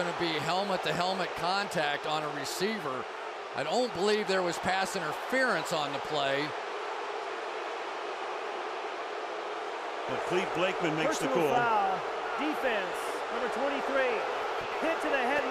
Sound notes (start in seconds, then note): 7.0 booing